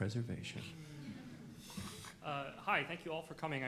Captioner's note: moaning